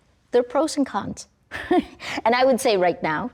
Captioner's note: laughs